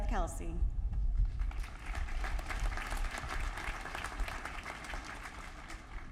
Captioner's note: applause